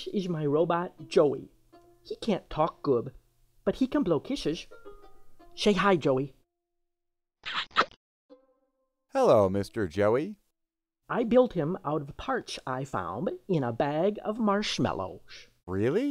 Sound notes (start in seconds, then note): 7.4 kissing